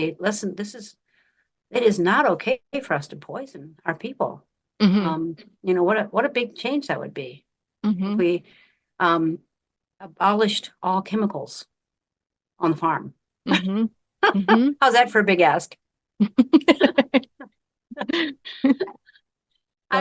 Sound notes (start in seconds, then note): 16.2 laughing